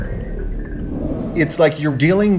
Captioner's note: kong roars